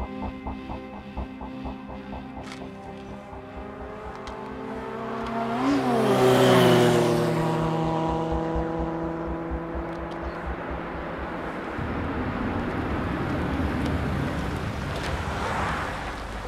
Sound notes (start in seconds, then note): 4.3 motorcycle approaching